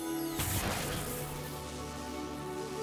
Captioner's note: buzz; explosion